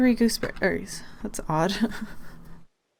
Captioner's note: laughs